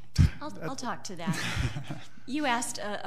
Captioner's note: laughing